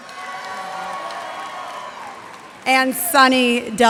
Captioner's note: cheers and applause